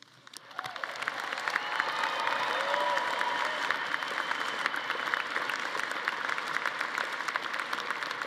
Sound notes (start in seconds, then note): 0.2 audience applauding